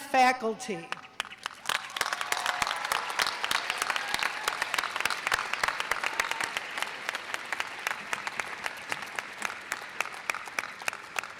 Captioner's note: audience cheers and applause